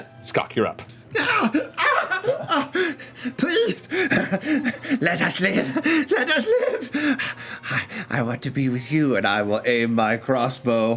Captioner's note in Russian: кричит